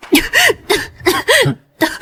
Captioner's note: cough cough